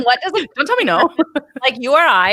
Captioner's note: laughs